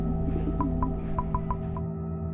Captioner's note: beeping